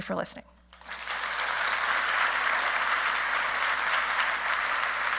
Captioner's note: audience clapping